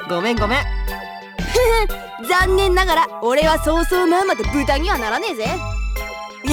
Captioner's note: chuckle